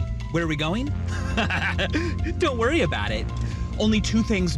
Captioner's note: laughs evilly